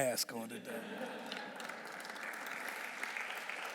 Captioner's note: audience laughing; audience clapping